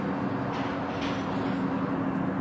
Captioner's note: train passing